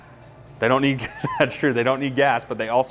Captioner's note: laughs